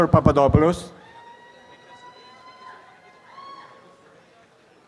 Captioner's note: audience applause